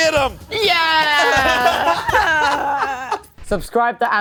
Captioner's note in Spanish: risas